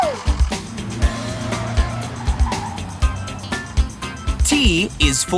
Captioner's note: screeching